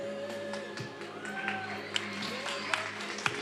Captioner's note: attendees cheering and applauding